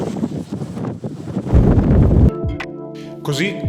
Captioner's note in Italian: suono di vento